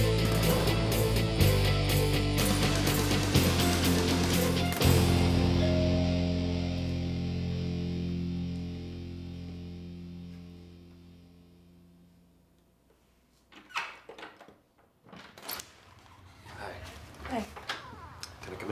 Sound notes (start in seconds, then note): 0.2 rock music; 5.8 doorbell ringing